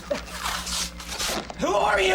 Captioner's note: tape ripping